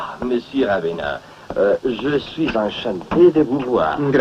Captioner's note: speaking Italian